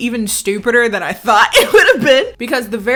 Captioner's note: laughs